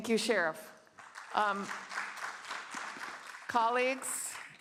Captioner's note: applause